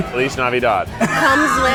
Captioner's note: laughs